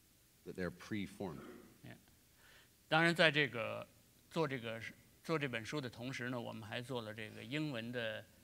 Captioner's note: speaking in Chinese